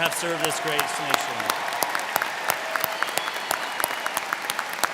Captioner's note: crowd clapping